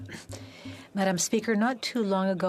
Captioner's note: speaking French